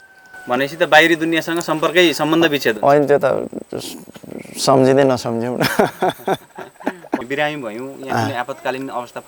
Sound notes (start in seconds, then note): 5.6 laughter